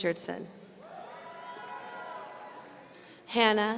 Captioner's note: audience cheering